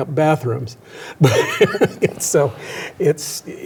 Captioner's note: chuckles